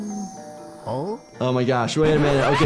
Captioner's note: Lumpy hums; doorbell rings